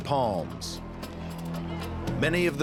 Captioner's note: cheering